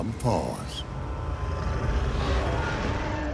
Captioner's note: snarling